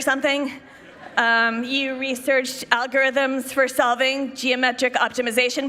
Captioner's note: laughter